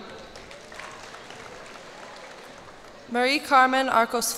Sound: cheers and applause

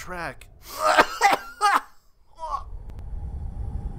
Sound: Cork coughing and hacking

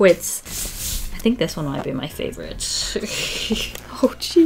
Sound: laughs

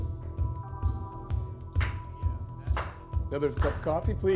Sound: rhythmic clapping

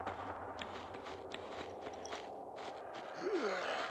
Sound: thugs noises

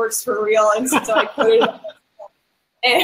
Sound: laughing

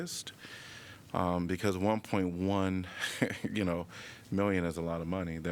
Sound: laughter

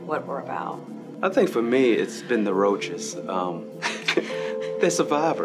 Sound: chuckles

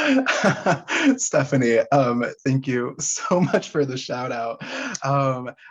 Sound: laughing

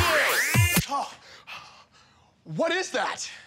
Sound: music stops; gasping

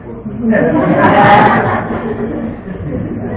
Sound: laughter

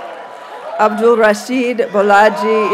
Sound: graduates chant

